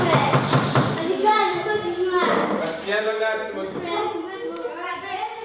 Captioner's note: kids chattering